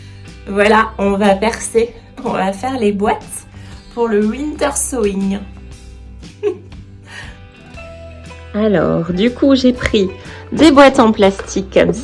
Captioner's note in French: rires